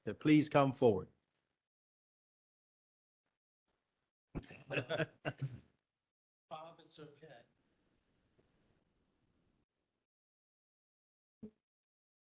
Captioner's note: laughter